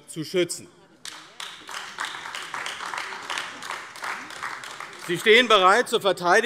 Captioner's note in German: Beifall AfD